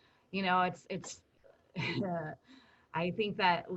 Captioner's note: chuckles